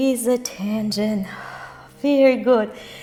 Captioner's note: breath